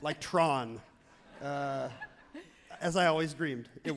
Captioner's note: crowd and laughs happily